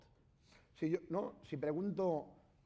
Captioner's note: speaking spanish